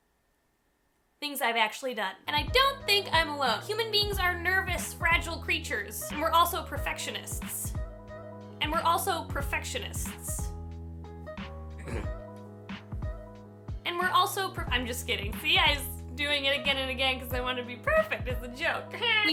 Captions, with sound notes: Things I've actually done. And I don't think I'm alone. Human beings are nervous fragile creatures. And we're also perfectionists. And we're also perfectionists. [clears throat] And we're also--I'm just kidding! See I was doing it again and again because I wanted it to be perfect as a joke! Haaaa!